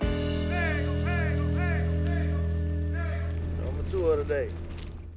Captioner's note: men yelling